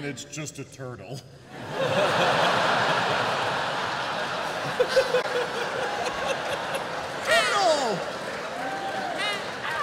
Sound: laughter

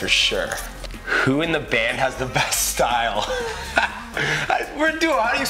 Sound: laughs

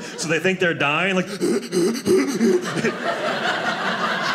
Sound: imitates boy choking; audience laughing

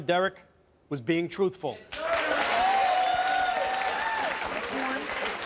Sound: audience cheering and applause

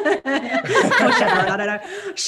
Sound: all laugh

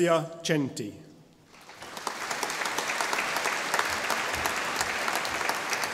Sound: audience applauding

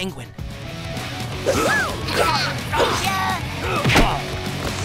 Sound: grunting

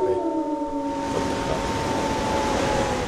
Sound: a cacophany of wolves howling

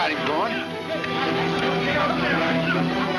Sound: men shouting

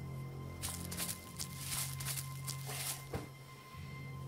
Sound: leaves rustling

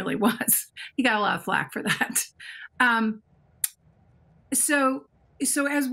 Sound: chuckles

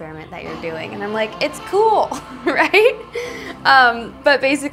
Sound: chuckles

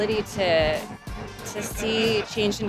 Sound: atmosphere humming

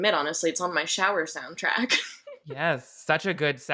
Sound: laughs

